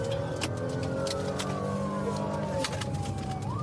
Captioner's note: siren blaring